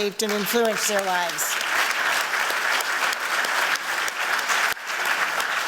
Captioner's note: applause